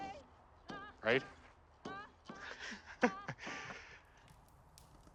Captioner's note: laughing